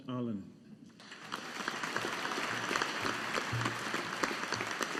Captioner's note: audience applauding